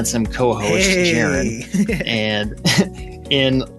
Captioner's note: chuckles